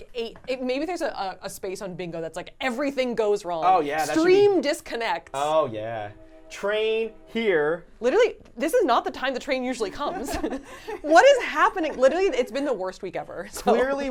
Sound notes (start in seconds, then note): 7.5 train horn blowing